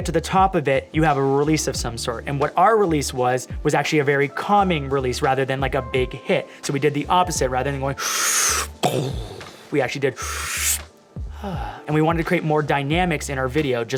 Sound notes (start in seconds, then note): 8.0 slurping; 8.9 mimicking explosion; 10.2 slurping